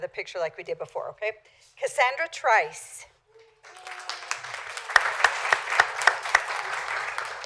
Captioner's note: applause